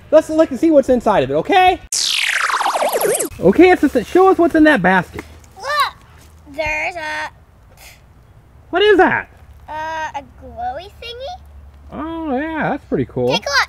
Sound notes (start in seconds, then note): 8.9 voiceover; 12.2 voiceover